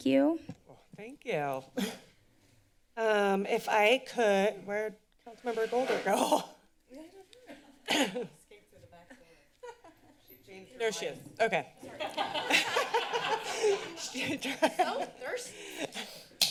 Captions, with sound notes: Thank you. -Thank you. Um, if I could, where did Councilmember Golder go? [laughs] -Escape to the back door. [laughs] -She changed her mind. -There she is. Okay. [laughter] She drank.... - So thirsty.